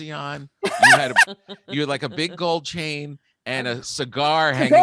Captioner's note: Lisa laughing